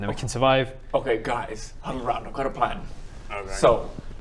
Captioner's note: whispering